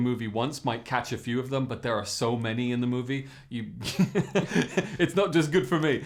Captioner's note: laughs